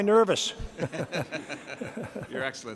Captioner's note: laughs